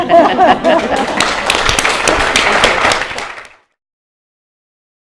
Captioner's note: laughter; applause